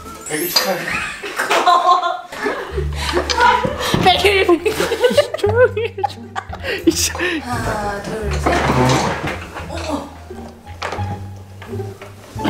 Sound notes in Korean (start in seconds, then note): 3.5 웃음; 6.8 의자 소리